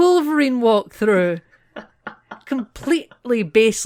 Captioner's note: laughter